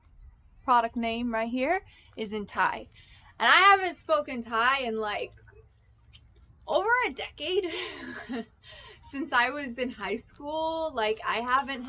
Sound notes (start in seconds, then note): 8.2 laughs